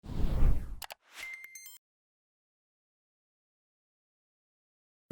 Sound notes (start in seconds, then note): 0.0 whooshing; 0.8 mouse clicks & beeping